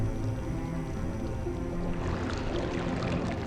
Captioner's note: water splashing